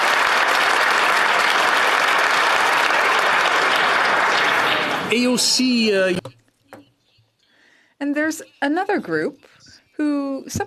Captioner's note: applause